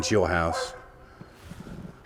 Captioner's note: dog barking